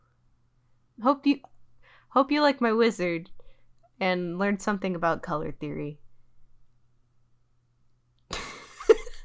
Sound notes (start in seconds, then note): 8.4 laughs